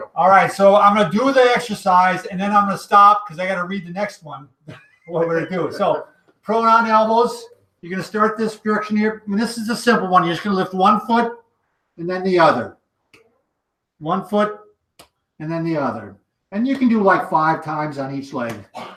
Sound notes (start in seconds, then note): 4.6 chuckles